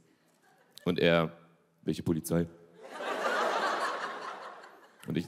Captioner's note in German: Gelächter